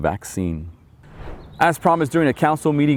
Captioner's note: air whooshing